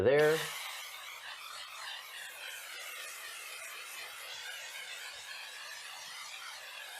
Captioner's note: spraying